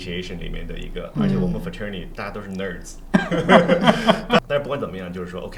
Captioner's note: laughter